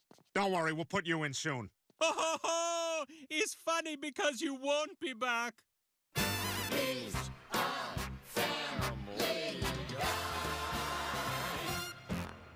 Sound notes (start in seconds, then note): 1.9 Fuad laughs